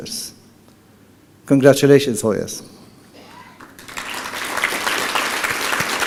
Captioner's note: applause